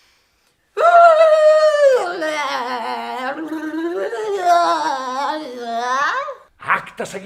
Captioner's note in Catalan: Crits acompanyant el sacseig